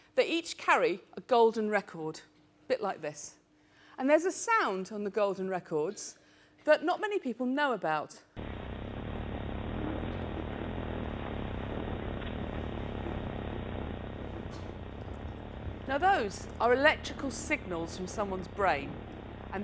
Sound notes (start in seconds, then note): 9.0 fuzz sound